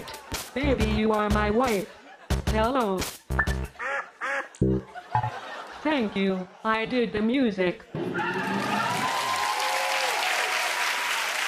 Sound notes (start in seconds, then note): 3.7 squawking; 8.0 cheers and applause